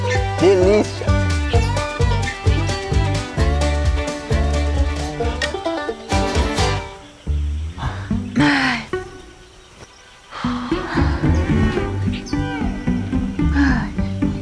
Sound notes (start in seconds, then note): 1.2 birds; 7.7 sighs; 10.3 sighs